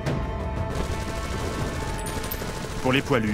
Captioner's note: machine gun noise